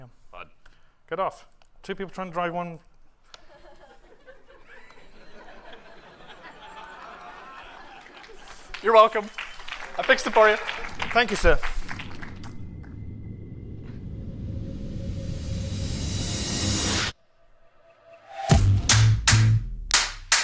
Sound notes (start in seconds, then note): 3.4 laughter